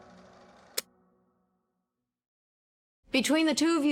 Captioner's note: film reel clicks off